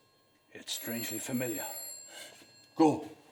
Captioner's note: ringing continues